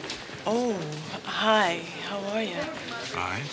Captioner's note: none